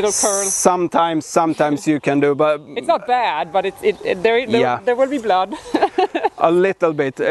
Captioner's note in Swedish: skrattar